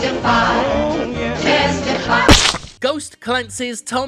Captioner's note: song end, loud splat